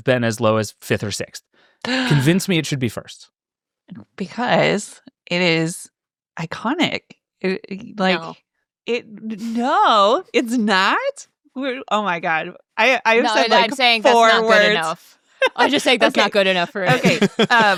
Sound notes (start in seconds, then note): 1.8 gasps